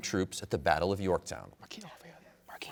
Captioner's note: whispers